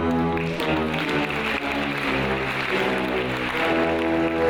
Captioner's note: audience applauds